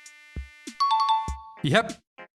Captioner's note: correct ding sound effect